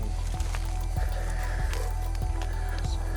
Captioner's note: Christian's colleague panting